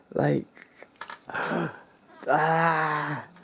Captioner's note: pained intake of breath